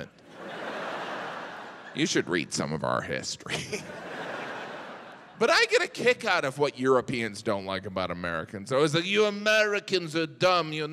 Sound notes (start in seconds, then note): 0.2 audience laughs; 3.4 audience laughs